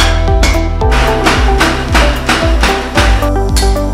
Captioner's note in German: lautes metallisches Stampfen; lautes metallisches Klingen